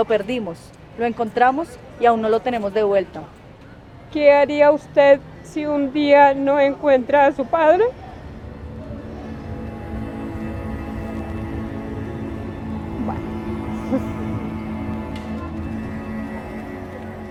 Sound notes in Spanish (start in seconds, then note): 4.1 sollozando; 8.2 Música suave de violín